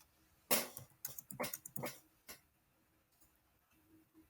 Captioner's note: mouse clicks